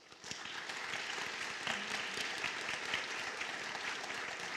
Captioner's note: applause